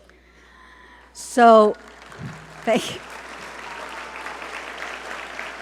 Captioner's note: audience applaud